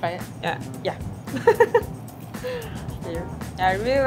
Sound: laughs

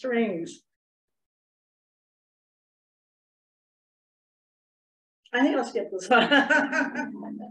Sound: laughter

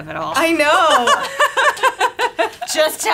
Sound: both laughing

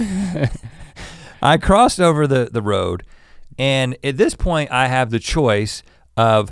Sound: laughs

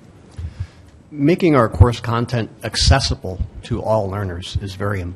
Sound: voiceover

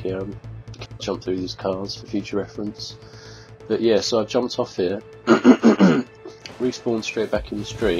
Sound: clears throat

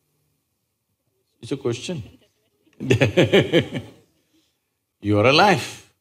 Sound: laughs

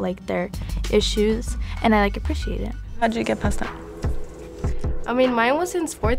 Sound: speaking Spanish

